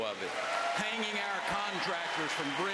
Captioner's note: applause